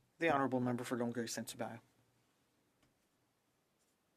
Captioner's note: speaking French